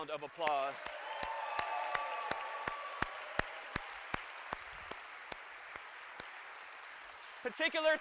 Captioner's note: applause